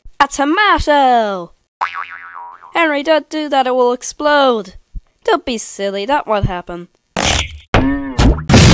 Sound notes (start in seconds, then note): 7.8 boing Noises?